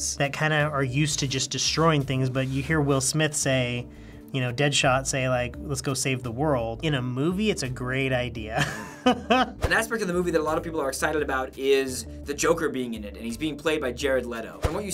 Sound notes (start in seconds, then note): 8.6 laughing